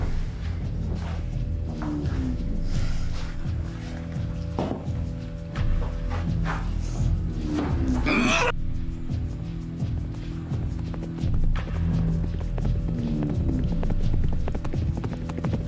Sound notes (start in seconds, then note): 0.0 tense music; 7.8 Emmett grunts; 10.0 horse hooves clopping; 10.4 tense music